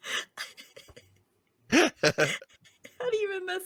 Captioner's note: laughing